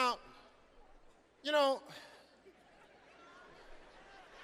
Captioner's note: Steve sighing; audience laughing